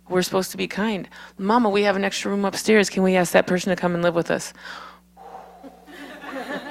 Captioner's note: laughs